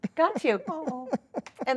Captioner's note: laughing